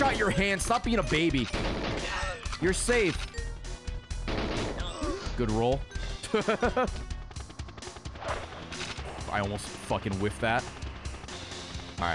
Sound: yells; laughs

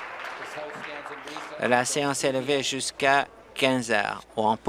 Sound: applause

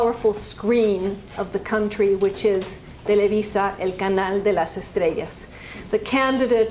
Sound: spanish

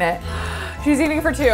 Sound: gasping

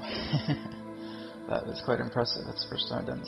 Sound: chuckles; deep exhaling breath

